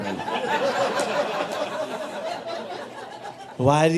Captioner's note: audience laughing